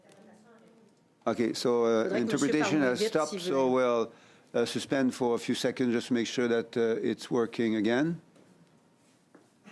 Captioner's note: speaking French